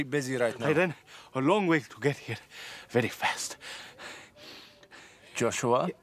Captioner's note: panting